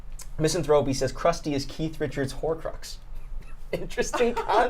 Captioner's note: laughs